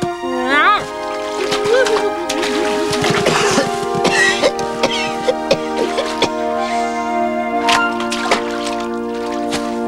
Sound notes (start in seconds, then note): 0.3 imitating curly; 3.3 coughing